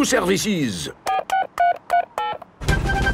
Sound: dialing

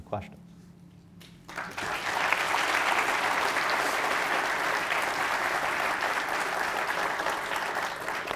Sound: audience applause

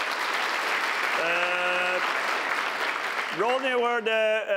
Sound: applause

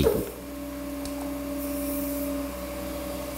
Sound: machine whirring

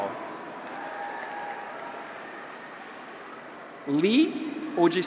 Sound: audience applauds

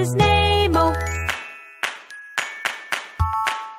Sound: clap

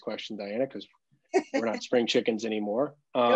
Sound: laughs

